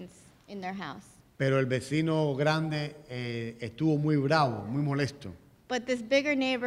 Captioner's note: speaking in Spanish